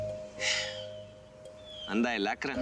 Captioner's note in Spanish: exhala